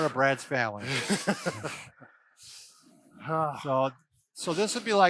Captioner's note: laughs